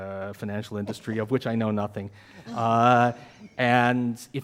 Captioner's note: man chuckles